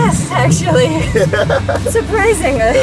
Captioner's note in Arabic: يضحك